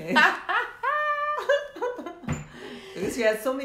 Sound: laughing

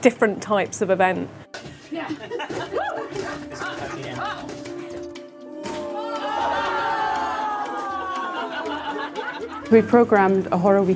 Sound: audience cheering

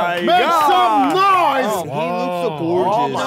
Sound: sound of cheering

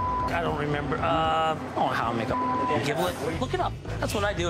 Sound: beep; beep

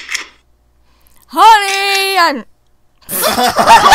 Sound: door opening sfx; door opening sfx again; laughter

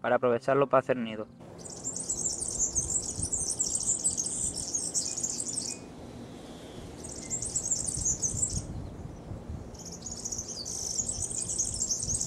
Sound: bird Song

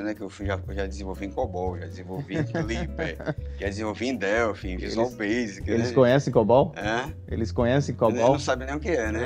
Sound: laughter

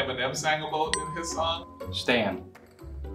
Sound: bell dings

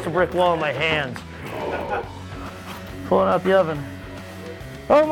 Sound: grunting

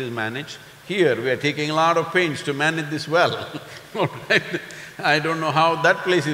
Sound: laughs

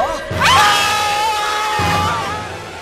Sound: all scream

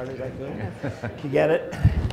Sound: laughter

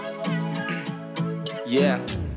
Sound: clears throat

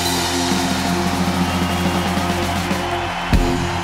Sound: crowd cheering

